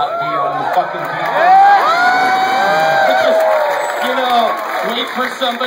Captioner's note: cheering